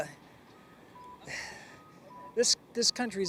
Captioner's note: sighs